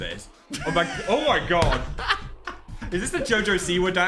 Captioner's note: Dan laughing